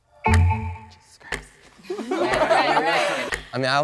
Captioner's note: laughs